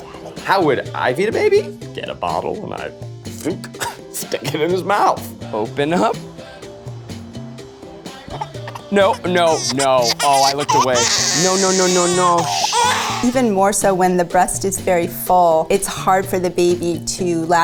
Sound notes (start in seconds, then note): 10.9 baby crying